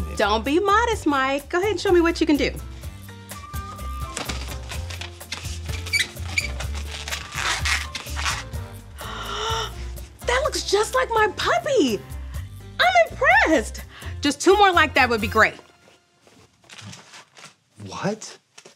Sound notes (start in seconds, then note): 5.2 balloon squeaks; 8.9 gasps